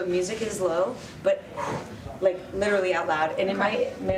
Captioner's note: exhales